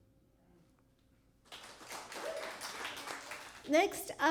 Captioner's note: applause